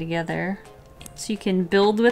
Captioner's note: click